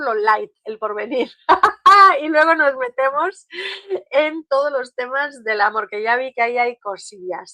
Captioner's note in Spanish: risas